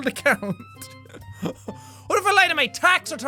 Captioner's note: laugh